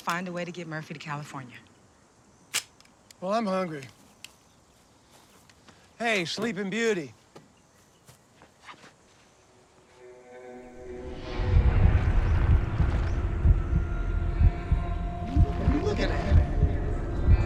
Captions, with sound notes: to get Murphy to California. - Well, I'm hungry. Hey, Sleeping Beauty. [suspenseful music] [heartbeat] What are you looking at?